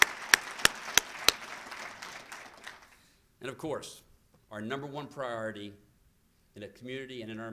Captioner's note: applause